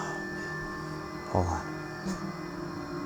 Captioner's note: sighs